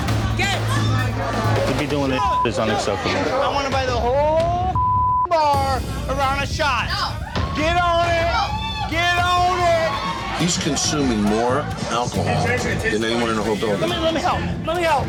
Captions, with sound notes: Get! - He be doin' this (beeps loudly), it's unacceptable. - I wanna buy the whole (beep) bar a round of shots. - No. - Get on it. (bar patrons yelling) Get on it. - He's consuming more alcohol than anyone in the whole building. - Come on, let me help.